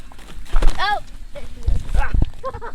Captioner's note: laughing